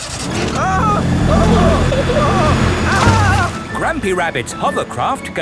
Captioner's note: grandpa screaming